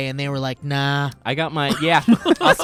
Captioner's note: laughing